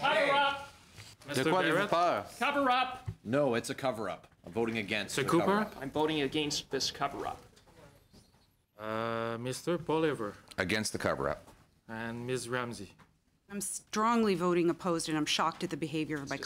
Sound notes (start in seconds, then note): 3.8 yelling